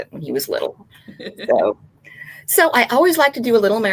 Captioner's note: laughing